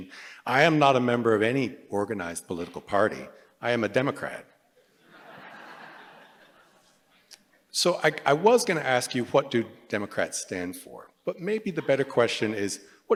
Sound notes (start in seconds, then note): 4.8 laughter